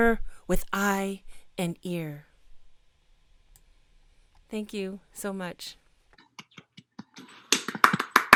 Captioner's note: applause